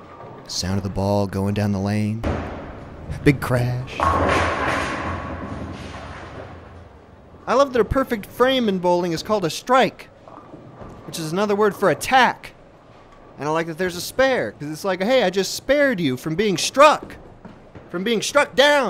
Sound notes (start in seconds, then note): 2.2 ball hitting the lane; 3.9 bowling pins falling